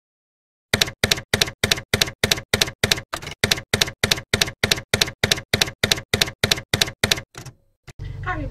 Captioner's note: typewriter keys clacking